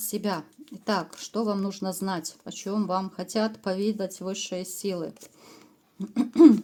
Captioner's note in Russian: откашливается